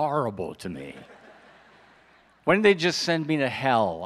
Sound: audience laughs

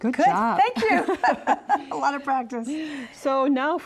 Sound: both laugh

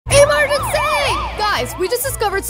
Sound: sirens blaring

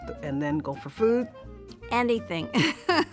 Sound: chuckles

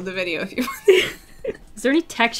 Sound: laughter

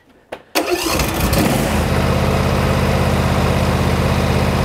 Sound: engine running

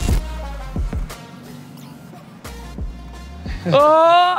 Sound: car engine slowing down

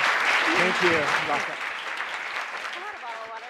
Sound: applause

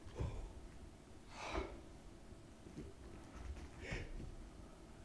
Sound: exhales forcibly; gasps

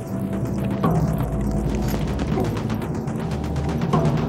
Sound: gunfire rattling

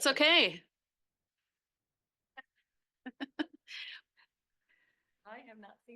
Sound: laughs

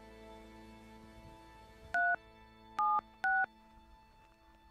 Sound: phone keypad beeping; phone ringing

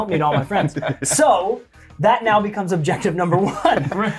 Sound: laugh

